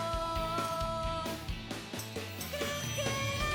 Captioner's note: feedback